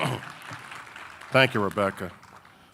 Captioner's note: clears throat; audience applauding